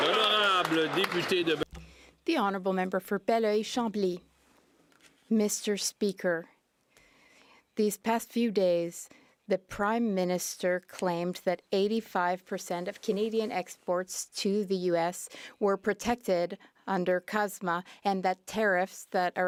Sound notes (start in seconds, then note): 1.6 some Applause